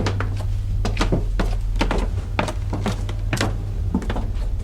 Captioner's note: footsteps thudding